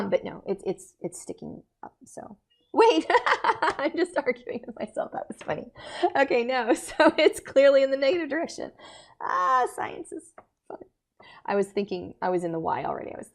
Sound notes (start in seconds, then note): 2.8 lecturer laughing